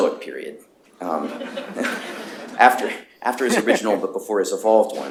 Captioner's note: laughter